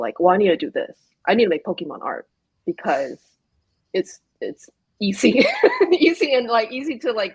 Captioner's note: laughs